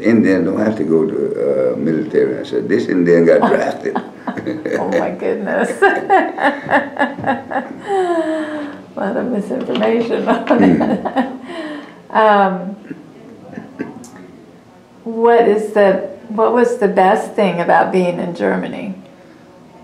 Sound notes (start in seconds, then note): 5.5 laughter